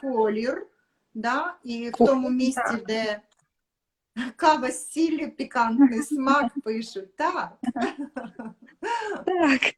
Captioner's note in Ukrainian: сміх